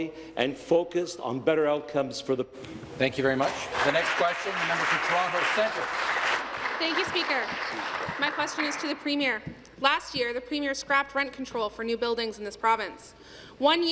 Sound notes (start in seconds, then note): 7.7 applause